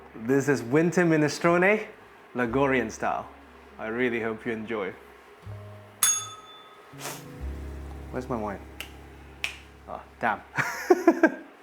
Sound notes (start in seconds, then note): 6.0 bell rings; 10.5 chuckles